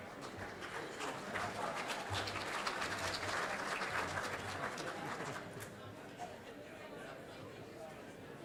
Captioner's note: audience applauding